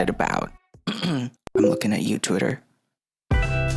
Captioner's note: clears throat